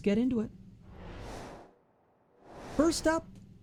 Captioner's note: air whooshes